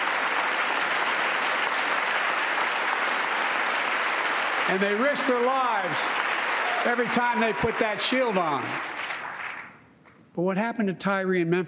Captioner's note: applause